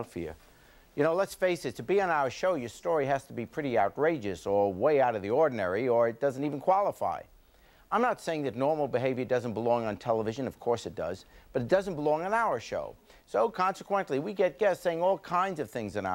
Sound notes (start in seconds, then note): none